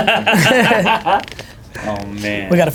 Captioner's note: laughs